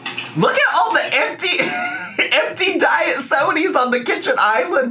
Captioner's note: laughs